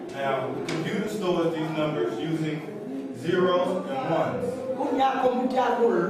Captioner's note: speaks softly